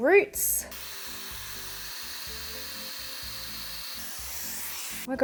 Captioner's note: hairdryer whirring